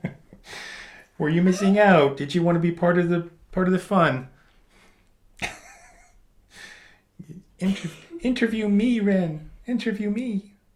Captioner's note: high pitched